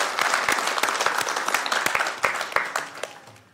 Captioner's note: applause